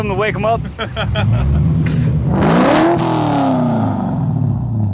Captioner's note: laughing; loud engine revving